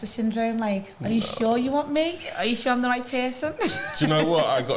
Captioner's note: laughter